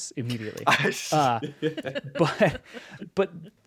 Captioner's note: group laughs